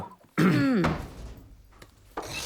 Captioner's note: door shuts close; door creaks open